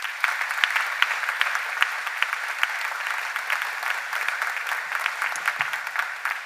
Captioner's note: applause